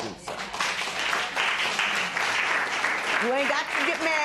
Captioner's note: applause